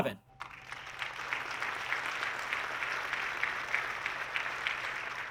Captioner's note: audience clapping